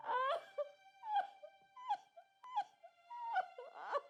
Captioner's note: crying